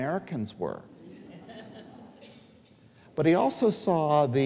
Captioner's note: audience laughing